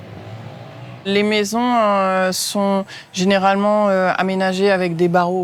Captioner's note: French spoken audio